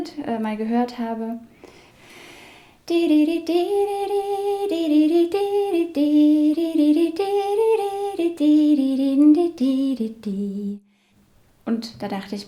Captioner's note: hums the melody